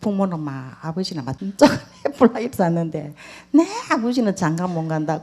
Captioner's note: questioner Laughter